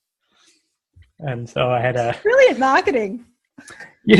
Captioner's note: laughs